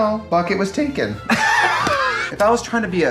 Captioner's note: both laugh